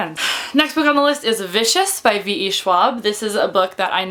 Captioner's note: sighs